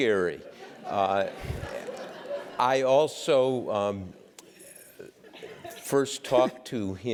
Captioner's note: laugh